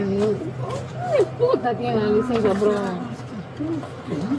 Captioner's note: speaking in foreign language